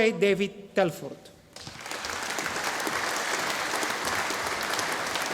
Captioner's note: audience applauding